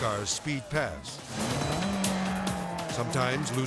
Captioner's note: lively music; car revving